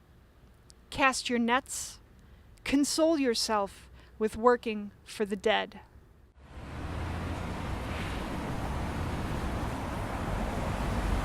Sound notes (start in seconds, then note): 6.4 engine hum